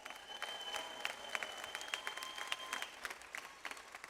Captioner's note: audience applauds